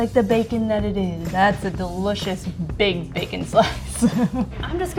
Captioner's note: chuckles